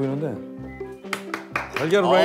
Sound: clap

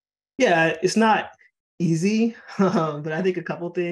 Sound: laughing

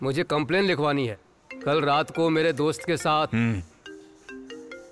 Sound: mobile rings

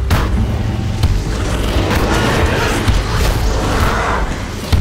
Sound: whooshing

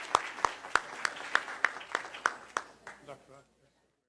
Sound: applause

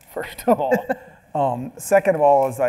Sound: laughing

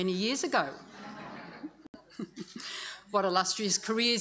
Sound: audience laughs

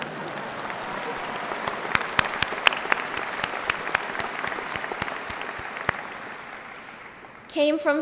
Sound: laughter and applause

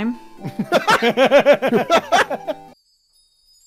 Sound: laughter; sparkle sounds

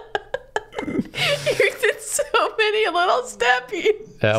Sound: laughing

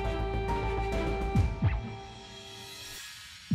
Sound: heart beating rapidly

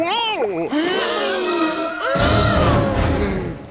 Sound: gasping

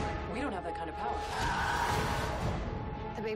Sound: muffled scream

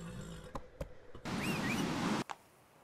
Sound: whistle

